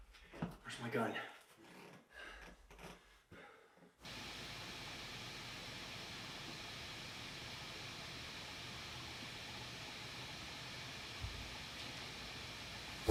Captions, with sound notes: Where's my gun? (static hissing)